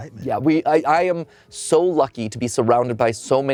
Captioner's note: none